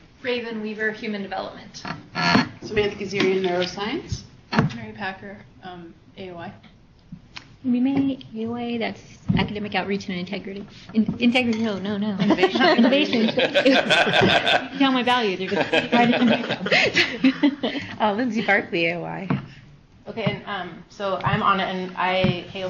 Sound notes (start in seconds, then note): 12.4 laughs